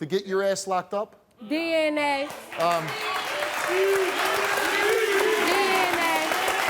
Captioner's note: audience cheers